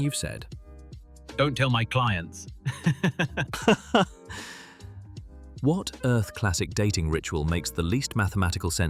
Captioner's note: laughing